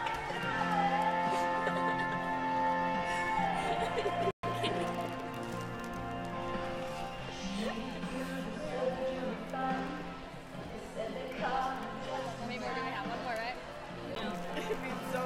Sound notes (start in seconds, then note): 1.1 laughing; 4.5 crying; 13.3 crowd talking